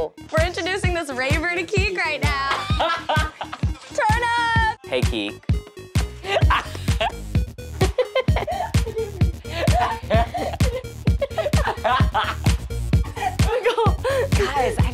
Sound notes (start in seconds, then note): 2.4 laughing; 6.0 laughing; 7.7 upbeat music